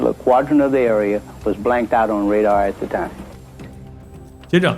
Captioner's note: lost signal